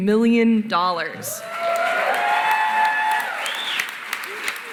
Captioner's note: cheering, applause